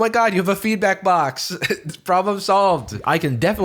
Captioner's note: chuckles